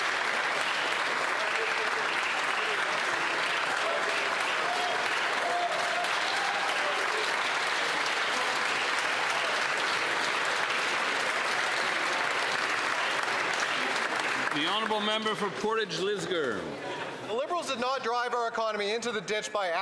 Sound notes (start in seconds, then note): 2.9 applause